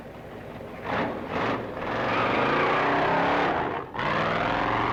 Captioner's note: engine revving